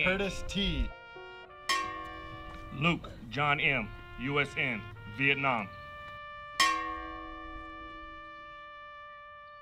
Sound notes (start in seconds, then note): 6.6 bell dings